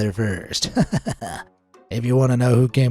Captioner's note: chuckles